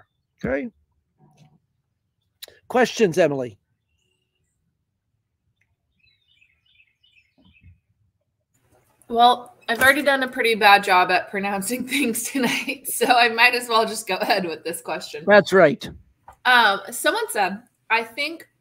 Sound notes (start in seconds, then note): 11.9 laughter